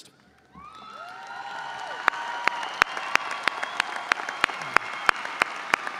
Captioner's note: audience cheering and applauding